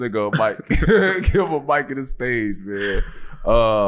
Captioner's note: chuckles